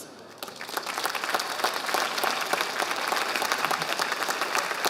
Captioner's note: audience applauding